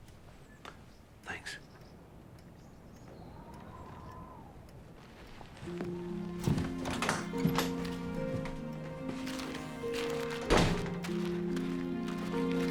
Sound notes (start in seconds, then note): 7.3 door closing; 9.9 gentle music